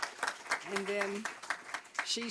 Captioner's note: applause